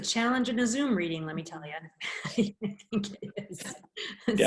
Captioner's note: laughing